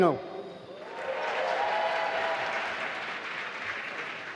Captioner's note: applause